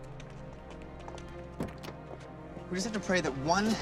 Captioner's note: door open close